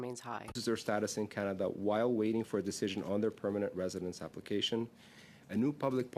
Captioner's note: speaking French